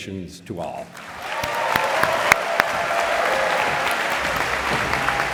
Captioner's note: applause, cheering